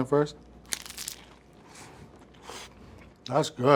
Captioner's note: egg roll crunching